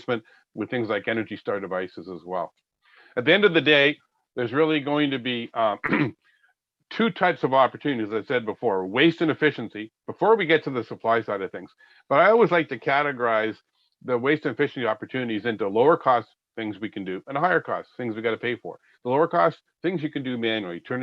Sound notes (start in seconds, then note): 5.8 clearing throat